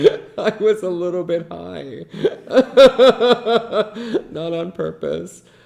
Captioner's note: laughs